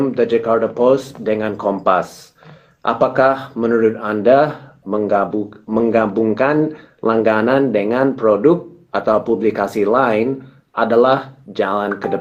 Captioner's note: speaking indonesian; speaking indonesian